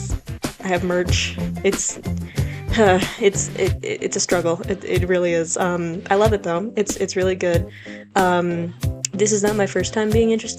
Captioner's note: sigh